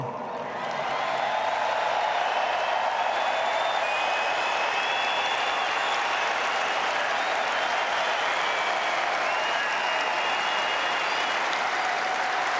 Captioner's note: applause